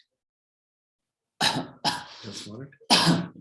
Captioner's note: coughing